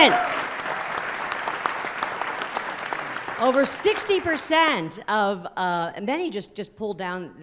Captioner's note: applause